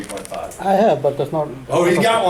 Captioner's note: voiceover